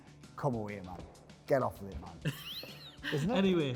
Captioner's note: laughing